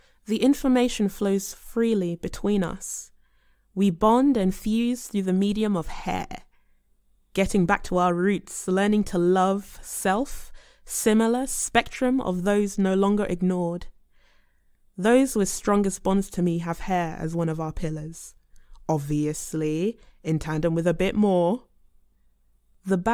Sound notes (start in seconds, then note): none